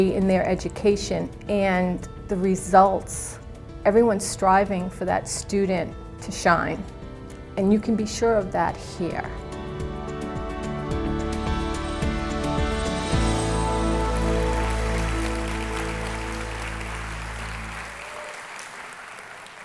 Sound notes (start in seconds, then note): 9.1 audience clapping; 9.1 soft music